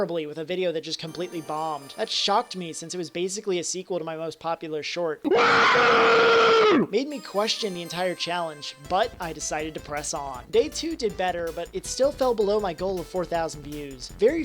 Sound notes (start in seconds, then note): 5.2 scream from short